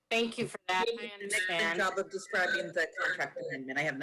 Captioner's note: speaks faintly